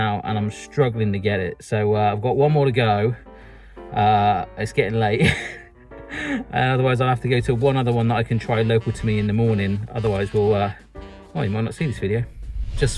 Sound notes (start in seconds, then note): 5.2 chuckles